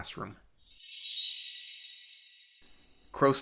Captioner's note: chime sound